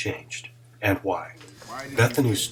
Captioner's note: chatter